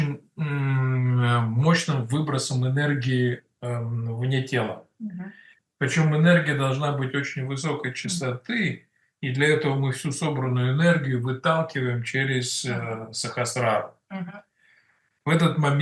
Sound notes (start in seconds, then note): 6.8 Russian